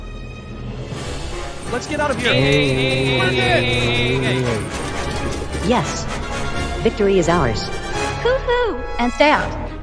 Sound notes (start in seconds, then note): 2.2 all screaming